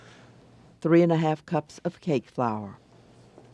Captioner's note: voiceover